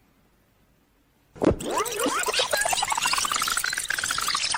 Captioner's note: tape squealing